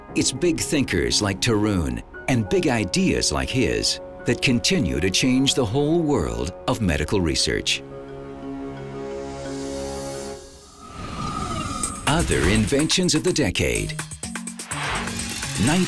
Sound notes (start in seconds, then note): 10.5 whooshes; 15.0 whirring